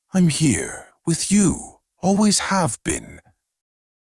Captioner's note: none